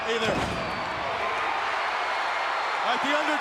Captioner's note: crowd cheering